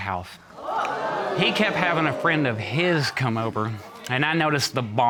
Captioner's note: audience gasps